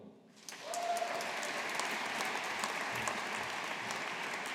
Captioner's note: audience applauding